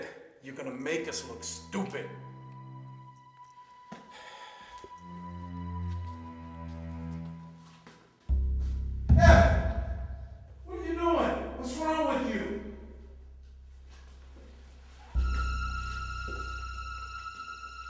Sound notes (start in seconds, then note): 8.8 thumps; 15.1 dramatic chord